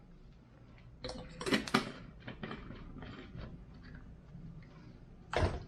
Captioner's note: plastic scrapes; plastic clatters